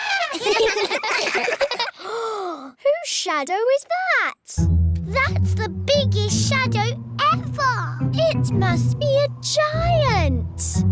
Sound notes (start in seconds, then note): 0.0 all giggle; 1.9 gasps